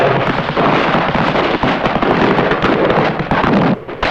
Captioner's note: explosions booming